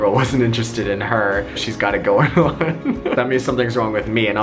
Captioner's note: laughs